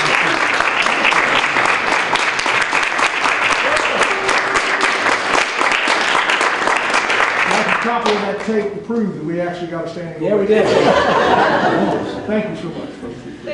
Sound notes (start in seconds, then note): 0.0 clapping, applause, and cheering; 10.6 laughter